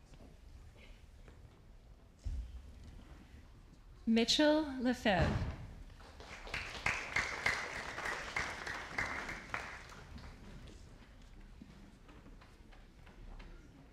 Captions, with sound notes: Mitchell LeFebvre. (audience applauding)